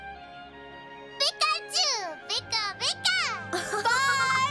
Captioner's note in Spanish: emocionado